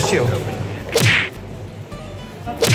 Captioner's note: punching noises